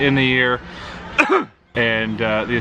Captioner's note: coughing